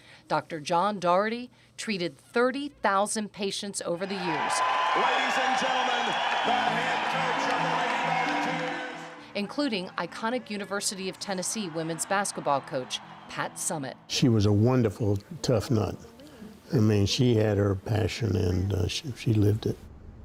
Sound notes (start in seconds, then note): 4.3 audience cheers